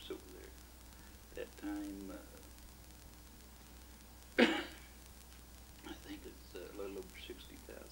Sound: coughs

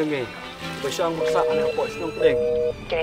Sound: busy tone

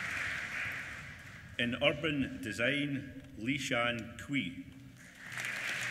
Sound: applause

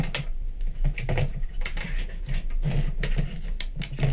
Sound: lamp clattering

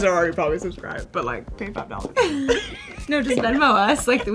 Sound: laughter

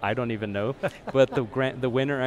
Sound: host laughs

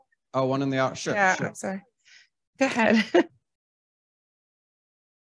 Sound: laughter

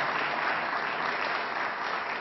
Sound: applause

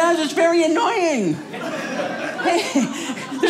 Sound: audience laughing

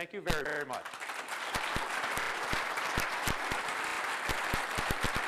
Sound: applause

